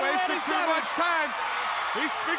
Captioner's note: crowd cheering